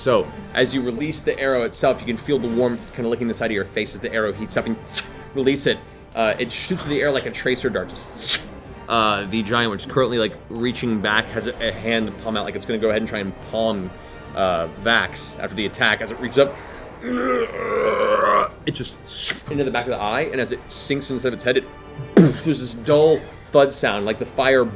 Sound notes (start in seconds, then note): 17.0 groans; 17.6 arrow whizzing; 22.2 thud